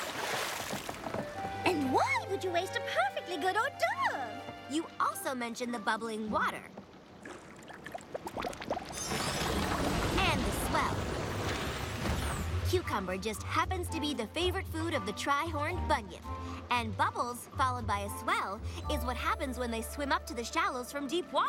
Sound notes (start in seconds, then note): 0.0 splash; 9.8 water bubbling